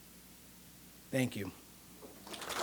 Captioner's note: audience clapping